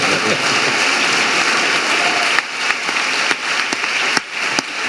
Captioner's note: audience applauding